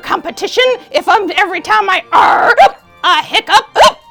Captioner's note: hiccups